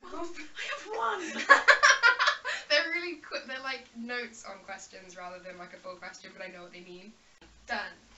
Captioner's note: laughs